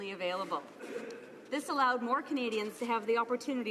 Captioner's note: speaking French